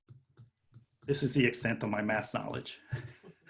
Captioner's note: laughing